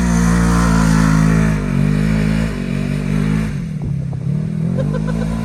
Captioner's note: ATV engine roaring; laughing